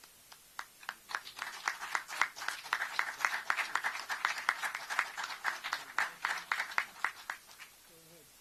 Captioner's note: applause